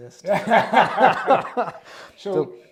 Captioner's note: laugh heartily